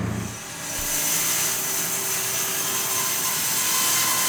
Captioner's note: saw squealing